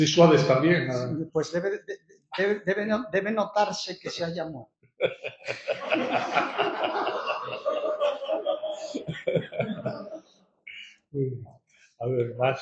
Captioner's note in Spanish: risas